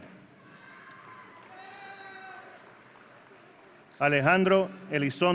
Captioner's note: audience cheering